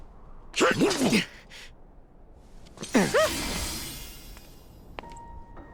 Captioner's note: grunts